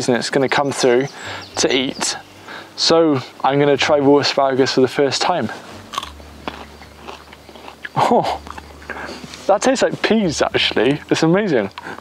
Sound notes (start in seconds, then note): 5.4 asparagus crunches